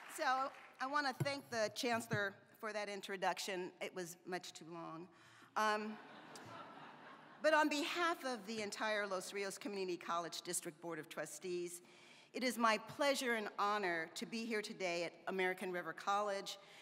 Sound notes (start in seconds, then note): 5.8 laughter